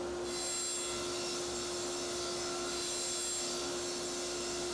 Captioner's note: table-saw buzzing